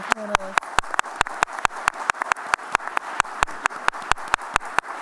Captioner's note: applause